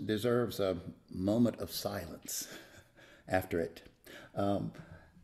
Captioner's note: chuckles